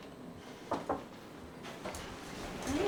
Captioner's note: knocking on door